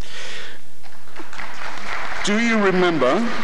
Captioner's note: applause